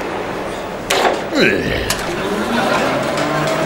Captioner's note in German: Grunzen